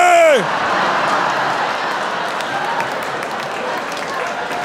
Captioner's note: audience laughing